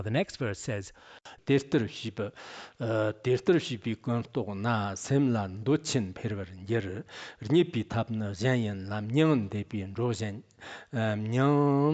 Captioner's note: giving oral transmission in Tibetan